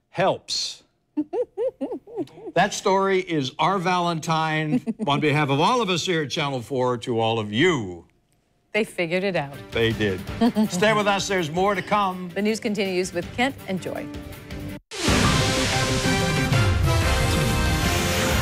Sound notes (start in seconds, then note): 10.3 laughter